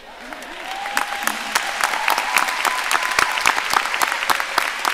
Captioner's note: audience applauding